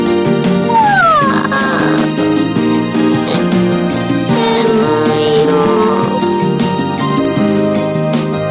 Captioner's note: yawning